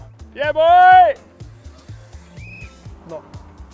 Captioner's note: yelling